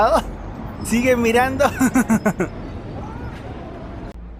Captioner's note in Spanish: risas